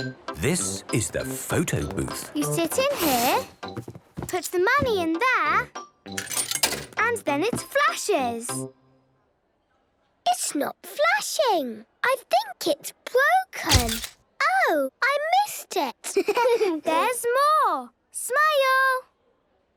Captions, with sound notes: - This is the photo booth. - You sit in here... Put the money in there... - (coin tumbling) - And then it flashes. - It's not flashing! I think it's broken. - (camera clicks) - Oh! I missed it. - (giggling) There's more! Smile!